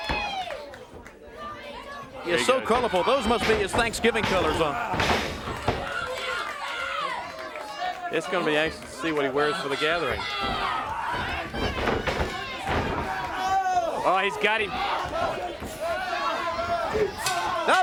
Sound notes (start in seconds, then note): 0.2 crowd chatter; 12.1 crowd chatter; 17.6 crowd chatter